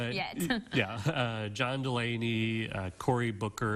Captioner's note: chuckling